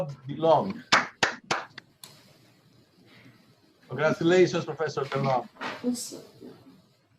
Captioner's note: applause